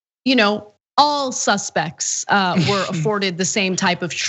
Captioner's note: laugh